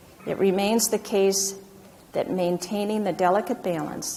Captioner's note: none